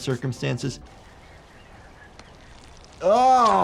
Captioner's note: birds chirping